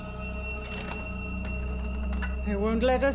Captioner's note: rattling door